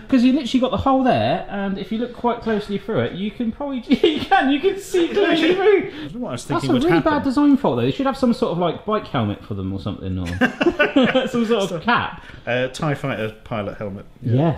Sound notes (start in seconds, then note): 10.2 both laughing